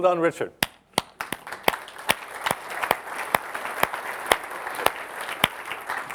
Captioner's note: applause